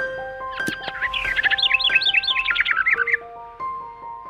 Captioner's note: bright music begins; birds chirping